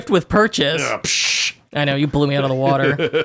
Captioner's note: exhales